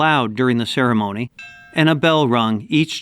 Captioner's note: bell rings